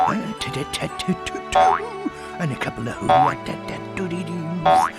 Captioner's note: Tigger making Tigger noises